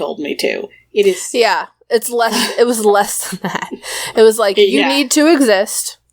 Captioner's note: laughs